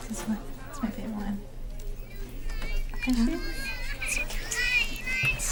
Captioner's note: whining children arguing